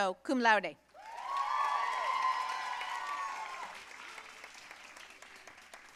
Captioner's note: audience cheering and applauding